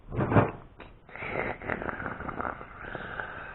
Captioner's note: gargling